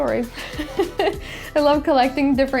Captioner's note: laughs